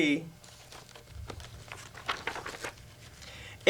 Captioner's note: sound of pages turning